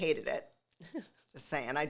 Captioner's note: laughs